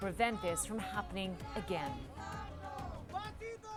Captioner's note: crowd chanting